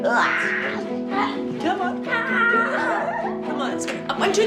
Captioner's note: laughs